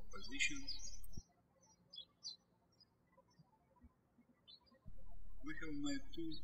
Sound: birds chirping

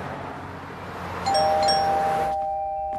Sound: doorbell ringing

